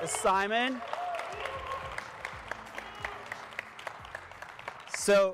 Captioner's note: audience applauding